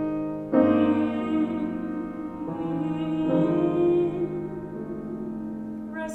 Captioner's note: humming